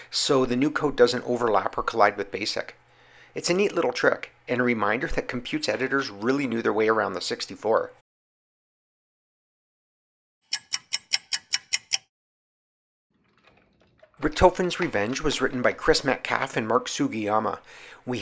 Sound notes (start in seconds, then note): 10.5 sound of a ticking clock